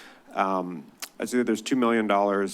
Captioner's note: clicks tongue